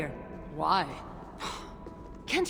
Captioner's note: scoff